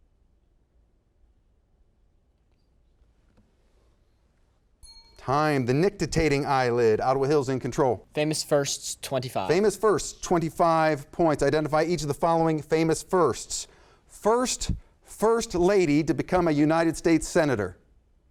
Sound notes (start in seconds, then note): 4.8 bell sounds